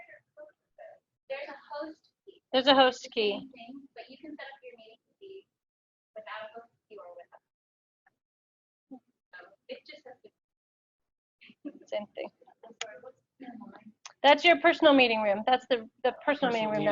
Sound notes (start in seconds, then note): 10.6 audio drops